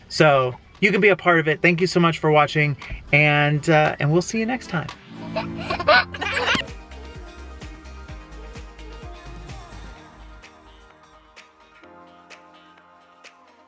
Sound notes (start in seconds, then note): 5.3 giggles; 6.6 upbeat music